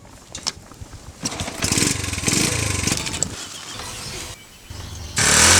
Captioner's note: motor bike revving